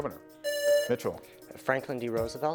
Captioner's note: presses buzzer